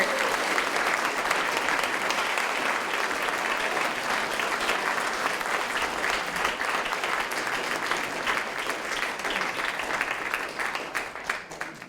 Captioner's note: applause